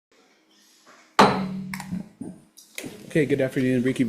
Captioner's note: gavel clanks